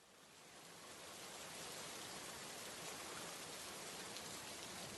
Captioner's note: rain pouring sounds